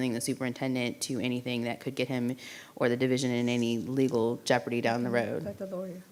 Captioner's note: none